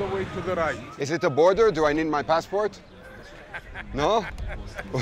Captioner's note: laughs